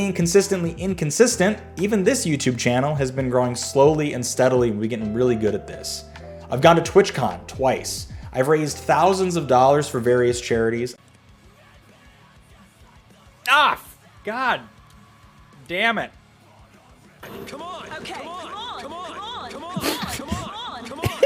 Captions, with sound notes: consistently inconsistent, even this YouTube channel has been growing slowly and steadily. We're getting really good at this. I've gone to TwitchCon twice. I've raised thousands of dollars for various charities. [sounds of disgust] God damn it. I mean, come on. Okay. Come on, come on, come on, come on, come on,